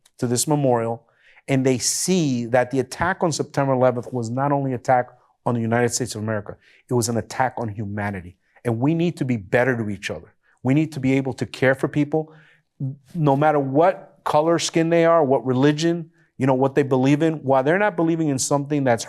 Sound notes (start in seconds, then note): none